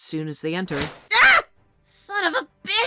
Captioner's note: Popper Screams in Pain